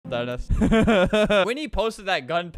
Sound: laughs

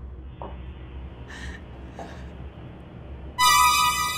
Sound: horrified breathing; suspenseful music

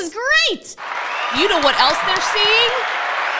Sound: cheering sound

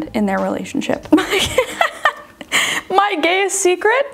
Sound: laughs

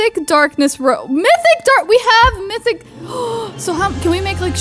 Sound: gasps

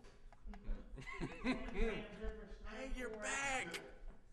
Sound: laughs

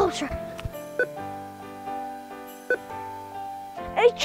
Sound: beeping

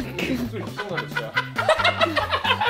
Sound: laughs

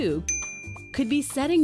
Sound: bell dings

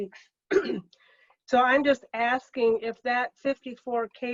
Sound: clears throat

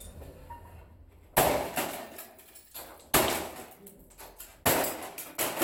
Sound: whacking & clattering

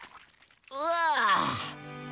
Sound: groaning

